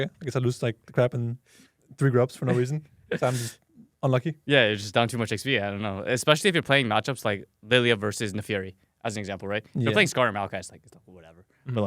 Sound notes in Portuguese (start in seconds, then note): 3.1 risos